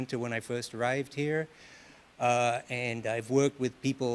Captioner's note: none